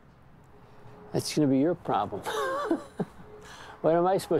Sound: laughs

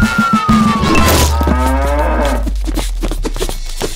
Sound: cow mooing

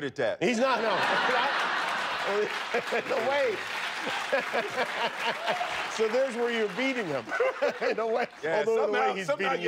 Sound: laughter

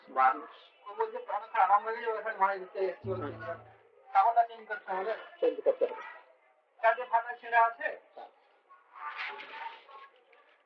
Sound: Hindi

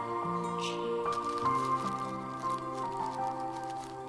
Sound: opens wrapper

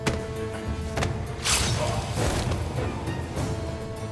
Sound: Kılıç sesi; Müzik - Vurmalılar ve yaylılar

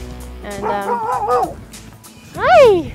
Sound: dog barking

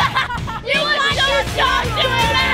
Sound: laughing; collective shouting

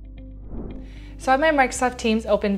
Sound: air whooshing

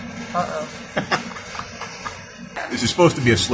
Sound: laughing

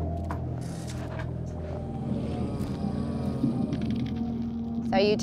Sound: growl

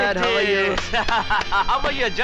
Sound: laughs

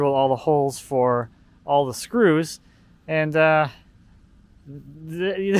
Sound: laughs

